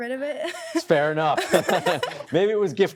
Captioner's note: chuckling